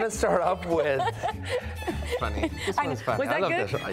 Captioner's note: laughing